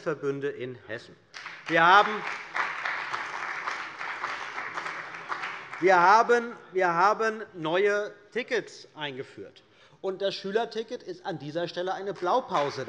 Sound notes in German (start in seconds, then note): 1.3 Beifall bei der CDU und dem BÜNDNIS 90/DIE GRÜNEN